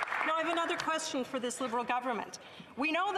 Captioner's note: some Applause